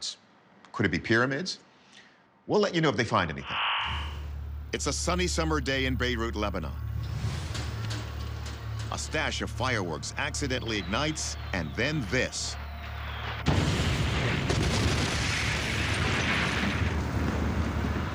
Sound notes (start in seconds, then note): 12.9 explosions